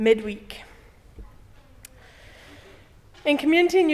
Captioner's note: pause